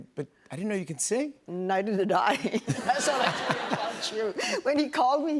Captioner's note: laughter